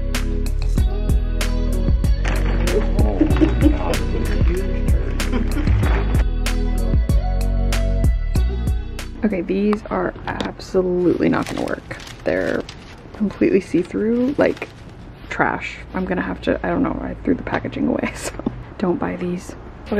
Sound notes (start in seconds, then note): 4.6 laughing; 6.5 pop music